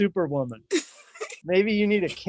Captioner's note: laughing